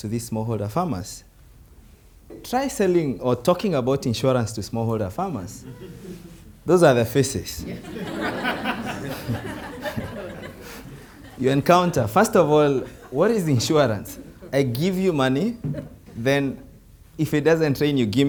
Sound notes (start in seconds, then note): 5.6 group laughs softly; 7.7 group laughs loudly